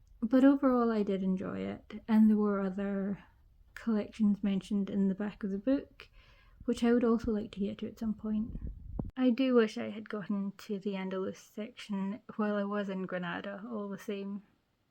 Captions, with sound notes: But overall I did enjoy it. There were other collections mentioned in the back of the book which I would also like to get to at some point. [muffled thump] I do wish I had gotten to the Andalus section while I was in Granada all the same.